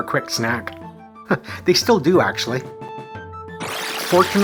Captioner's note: chuckles